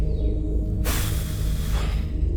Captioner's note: sigh